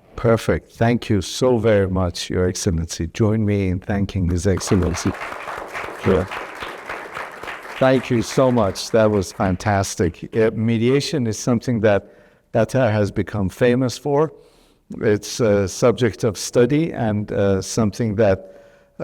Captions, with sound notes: - Perfect, thank you so very much Your Excellency. Join me in thanking His Excellency. (audience applauds) Thank you so much, that was fantastic. Mediation is something that Qatar has become famous for, it's subject of study and something that